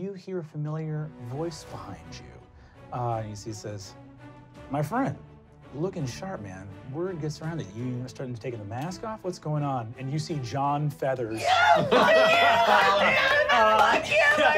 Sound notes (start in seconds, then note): 11.3 screaming